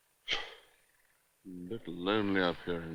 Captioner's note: sighs